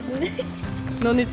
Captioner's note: laughing